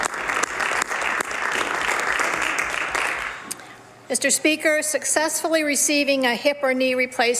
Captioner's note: some Applause